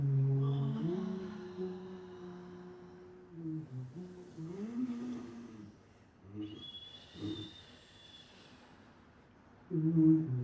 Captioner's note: humming